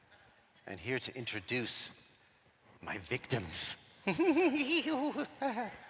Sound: giggles

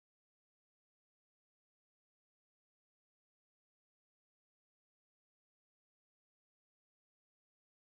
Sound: none

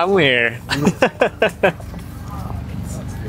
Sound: laughs

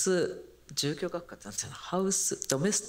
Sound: speaking japanese

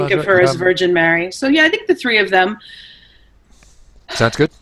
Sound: sighs

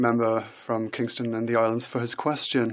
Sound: speaking French

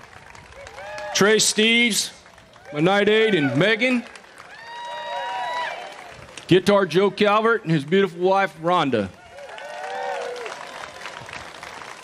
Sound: applause

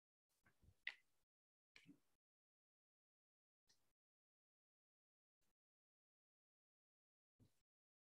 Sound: silence

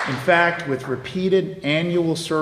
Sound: applause

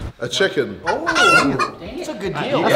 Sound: chicken cuckling

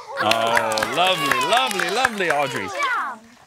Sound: applause

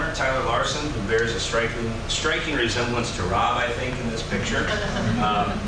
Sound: laughter

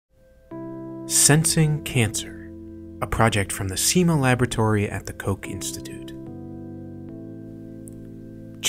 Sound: voiceover

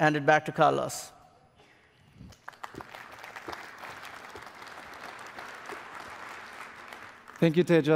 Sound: applause

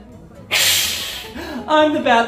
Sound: hissing

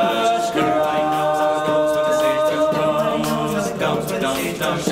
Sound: beatboxing

